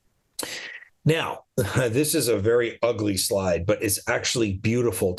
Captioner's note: chuckles